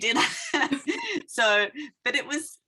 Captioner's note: chuckling